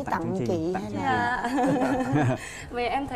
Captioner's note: laughing